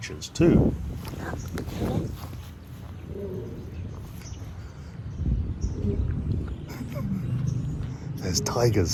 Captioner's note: sound of roaring